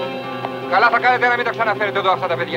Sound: Greek spoken audio

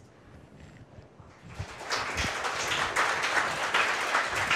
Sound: audience applause

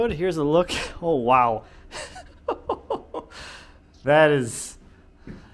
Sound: laughs

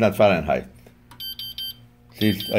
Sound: machine beeps

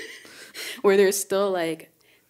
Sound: speakers giggling

